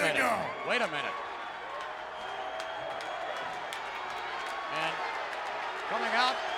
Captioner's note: applause